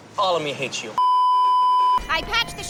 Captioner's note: beeeeeeeeeeeep